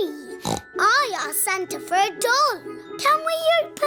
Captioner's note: snorts